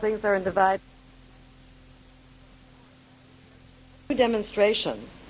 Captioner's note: sound fades